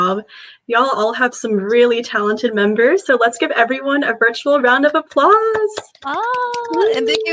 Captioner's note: everyone claps